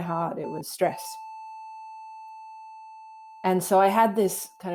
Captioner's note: monitor flat lining